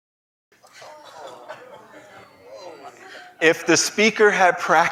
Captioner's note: reactions from the Audience